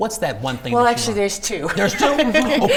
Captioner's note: laughs